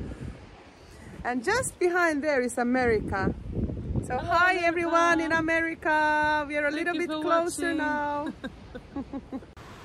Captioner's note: laughter